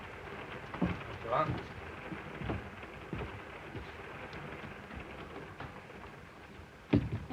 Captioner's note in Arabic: صوت خشخشة القطار